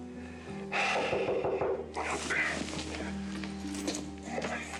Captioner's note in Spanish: él exhala; toques en la puerta